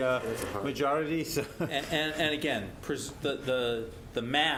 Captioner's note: laugh